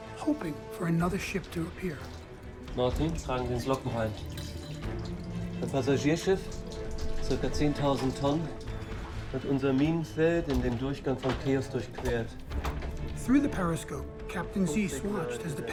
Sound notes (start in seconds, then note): 2.8 speaking in foreign language